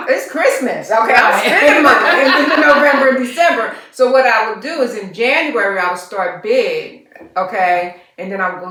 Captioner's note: laughter